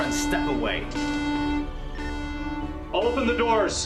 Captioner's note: alarm beeping